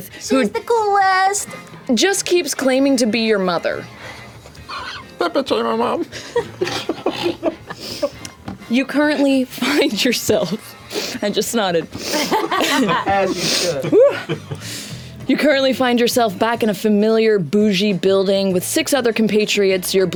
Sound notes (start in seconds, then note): 5.3 squeaky voice; 6.1 laughter; 12.0 laughter